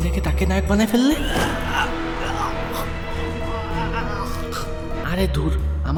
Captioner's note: struggling sound